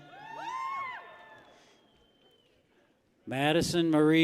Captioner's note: people cheer